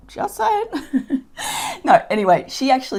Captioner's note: chuckles